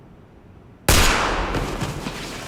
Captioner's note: gunshot